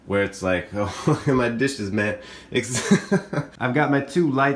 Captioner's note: laughs